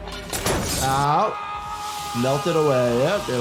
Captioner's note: glass shatters; man screaming